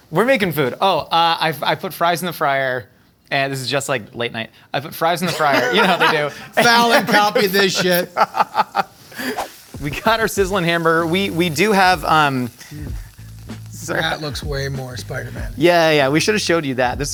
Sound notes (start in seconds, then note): 8.5 laughs